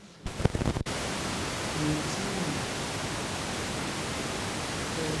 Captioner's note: static hissing loudly